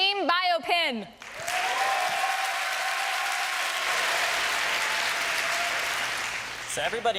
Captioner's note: applause and cheering